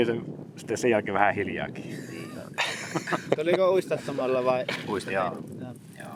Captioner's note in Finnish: naurua